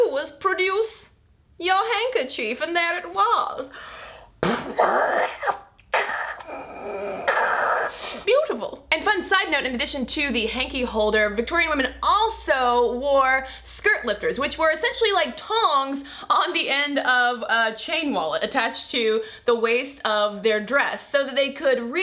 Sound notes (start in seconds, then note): 4.4 nose blowing